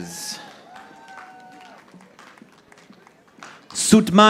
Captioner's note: audience applauding